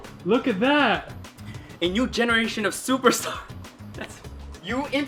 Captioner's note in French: rire